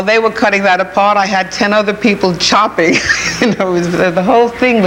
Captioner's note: chuckles